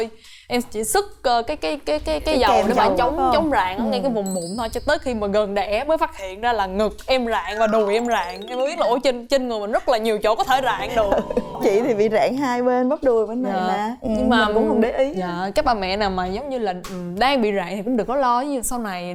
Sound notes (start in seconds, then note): 10.9 laughters